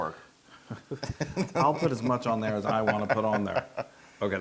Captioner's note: laugh